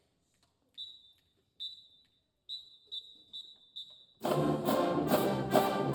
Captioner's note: whistle blowing; upbeat band music